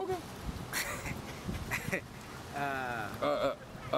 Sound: Mook chuckles

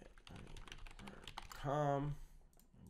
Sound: keyboard typing

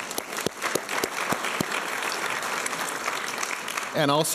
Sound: applause

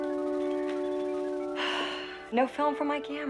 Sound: sighs

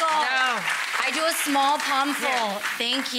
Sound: audience applauds

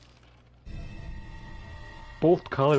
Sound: another spooky sound

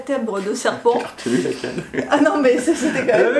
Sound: laughing

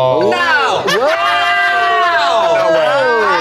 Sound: all shouting and laughing

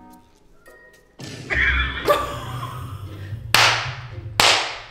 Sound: both laughing

